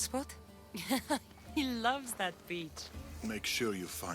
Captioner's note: laughs